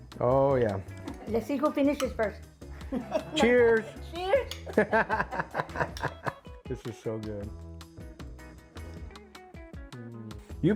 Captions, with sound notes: Oh yeah. - Let's see who finishes first. - Cheers! - Cheers! (both chuckling) - This is so good.